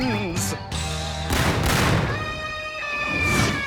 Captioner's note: cannon shots